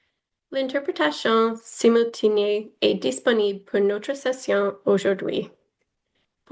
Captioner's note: foreign language